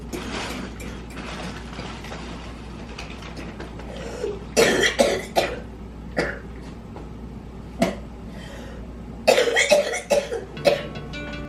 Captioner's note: coughing